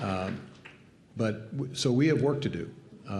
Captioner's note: applause